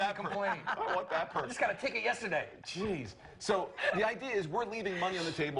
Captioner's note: laughter